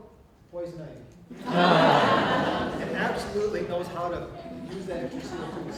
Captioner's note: audience laughter